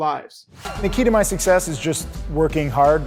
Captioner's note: air whooshes